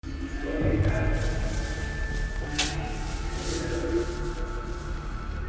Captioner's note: distorted speaking; suspenseful music playing